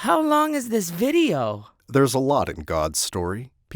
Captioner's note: voiceover